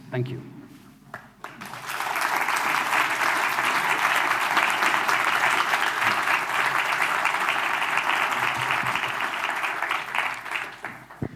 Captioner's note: applause